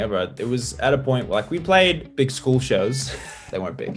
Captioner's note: laughs